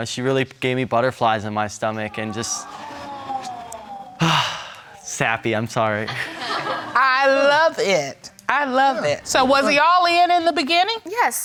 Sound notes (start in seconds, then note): 4.2 sighs; 6.1 audience laughs